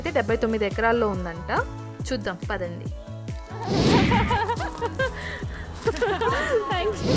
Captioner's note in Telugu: నవ్వు